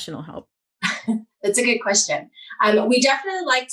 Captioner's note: chuckles